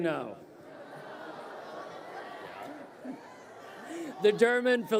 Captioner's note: crowd cheering